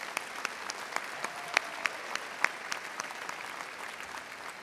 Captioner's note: audience applauding